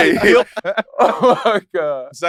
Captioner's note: laughs